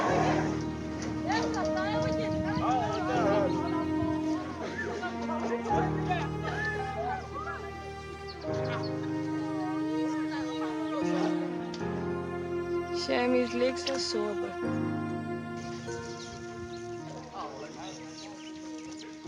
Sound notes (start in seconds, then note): 1.2 indistinct chatter